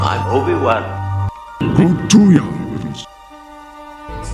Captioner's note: speaking alien